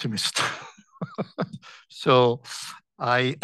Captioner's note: laughs